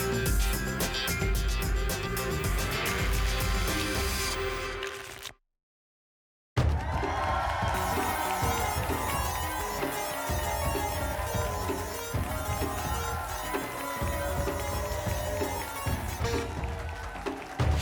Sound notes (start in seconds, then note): 2.8 tickets shuffling; 6.7 applause and cheering; 7.9 pinging sounds